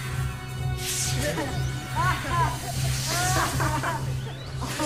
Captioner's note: laughter